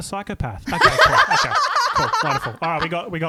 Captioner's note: laughing together